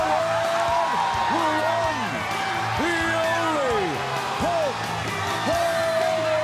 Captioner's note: crowd cheering